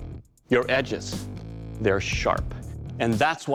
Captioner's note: none